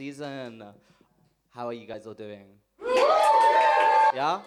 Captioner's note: audience cheers